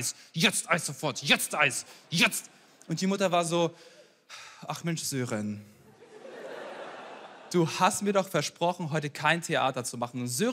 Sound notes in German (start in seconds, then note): 4.3 seufzt; 6.3 Lachen